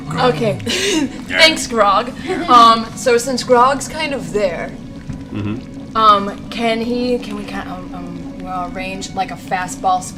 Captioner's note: laughs